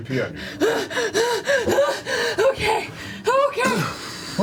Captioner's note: panicked gasping